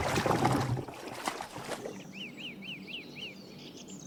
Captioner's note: birds singing